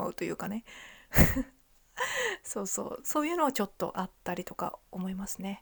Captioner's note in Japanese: 笑い